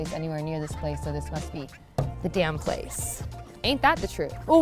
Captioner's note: thuds